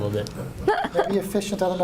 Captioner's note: laughter